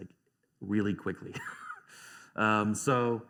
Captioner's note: laughs